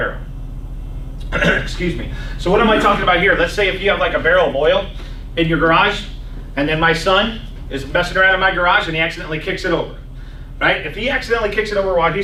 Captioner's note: clears throat